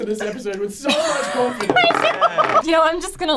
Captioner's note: laughs